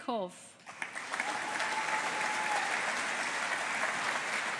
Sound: audience applauding

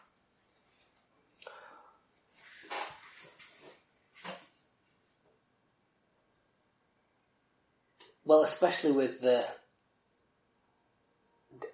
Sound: silence

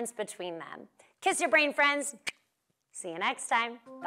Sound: smooches

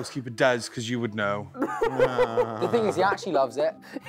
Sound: laughing

